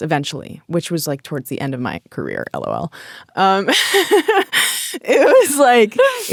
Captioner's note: laughing